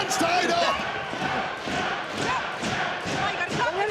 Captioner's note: audience chanting "tap, tap"